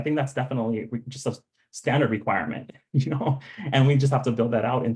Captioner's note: chuckling